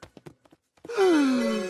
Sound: gASP

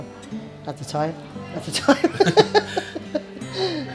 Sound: laughs

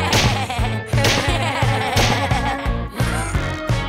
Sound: chuckling

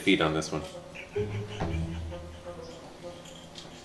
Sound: laughing

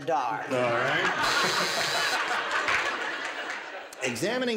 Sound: laughter

